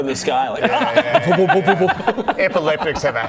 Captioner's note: vwh-vwr-vwr-vwr